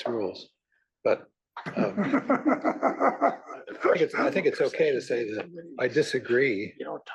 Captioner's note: laugh